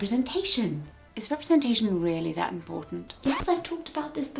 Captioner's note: sceptically